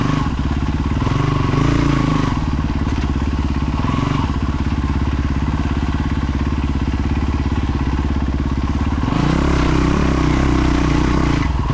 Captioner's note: engine revving